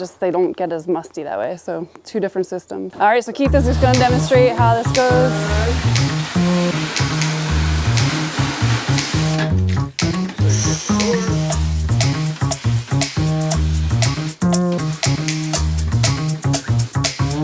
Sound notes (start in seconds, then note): 6.7 upbeat rhythmic music; 8.4 water spraying; 12.8 water spraying